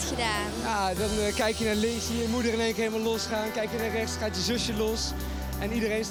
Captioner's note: speaking in foreign language